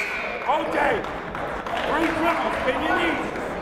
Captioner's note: buzzer blaring; yelling